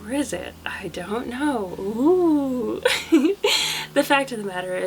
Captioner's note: laughs